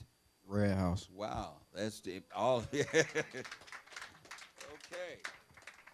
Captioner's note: laughs; audience applauding